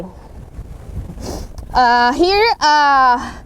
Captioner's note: sniffles her nose